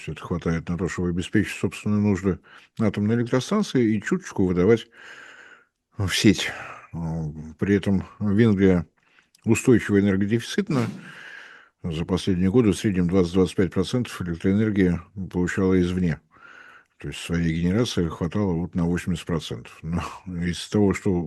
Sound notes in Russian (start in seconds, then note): 10.7 откашливается